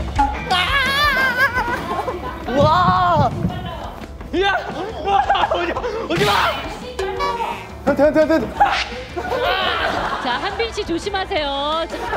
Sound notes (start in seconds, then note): 2.4 heart pounding